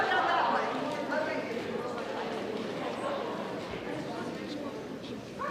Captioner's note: students chatter